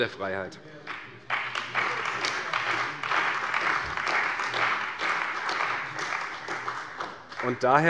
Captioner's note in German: Beifall bei Abgeordneten der CDU, des BÜNDNISSES 90/DIE GRÜNEN und der FDP